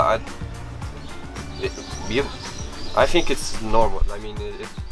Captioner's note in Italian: Inglese